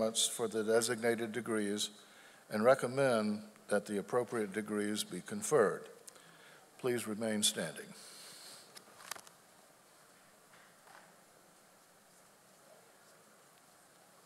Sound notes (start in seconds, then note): none